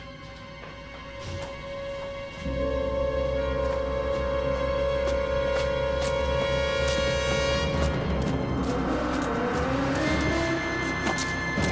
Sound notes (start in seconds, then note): 0.3 feet scuttling; 3.5 dramatic music continues; 4.9 feet stepping